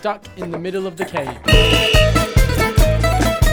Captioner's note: whistle blows